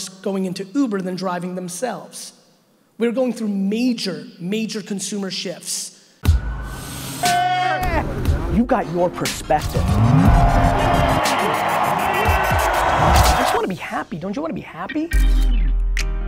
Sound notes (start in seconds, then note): 6.3 bright upbeat music; 9.6 audience cheering; 10.0 bright upbeat music